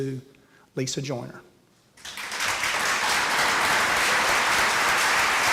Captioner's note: applause